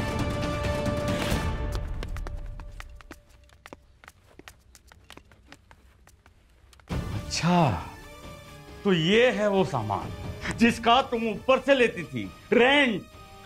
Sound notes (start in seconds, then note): 1.2 Footsteps